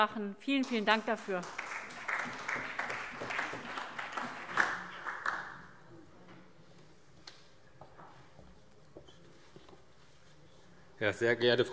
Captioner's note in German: Beifall